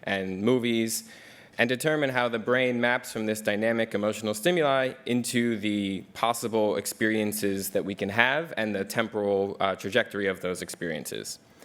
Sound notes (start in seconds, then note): none